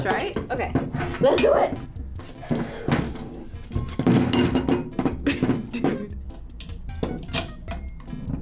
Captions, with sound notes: That looks right, okay. Let's do it! (laughs)